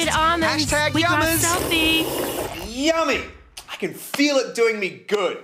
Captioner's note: slurps